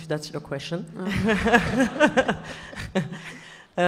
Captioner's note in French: rires